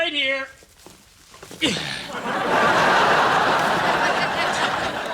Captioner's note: groaning; audience laughing